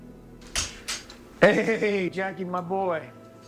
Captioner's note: door clicks